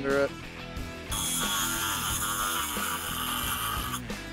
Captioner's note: grinding